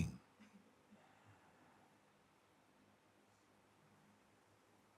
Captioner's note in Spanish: Silencio